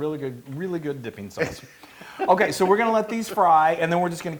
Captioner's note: laugh